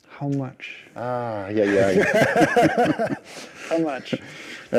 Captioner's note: laughs